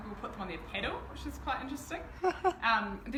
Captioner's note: host laughing